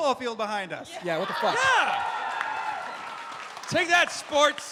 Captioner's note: cheering